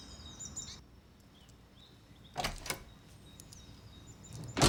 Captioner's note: door opens; door closes